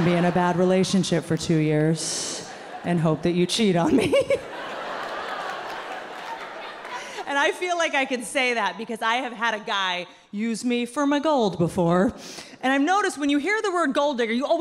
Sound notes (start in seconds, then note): 3.7 laughs; 4.7 audience laughing